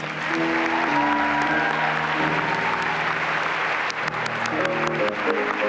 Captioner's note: applause and cheering